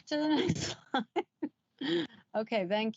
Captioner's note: giggles